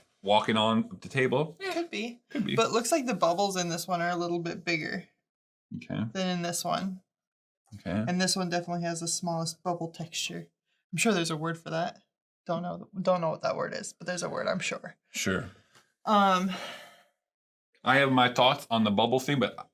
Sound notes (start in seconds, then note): none